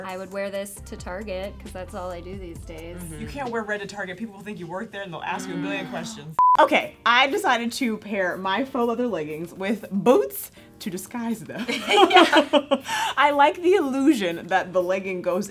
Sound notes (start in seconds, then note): 6.4 beeping; 11.7 laughing